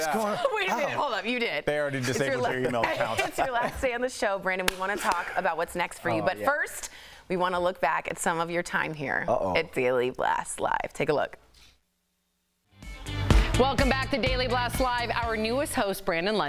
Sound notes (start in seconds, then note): 2.1 laughter